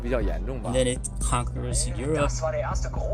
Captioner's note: soundbite of archived recording